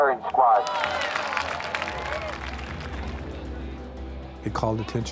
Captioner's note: crowd applauding